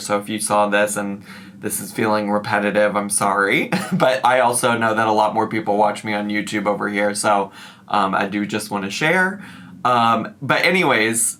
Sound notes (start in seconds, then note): 3.7 giggles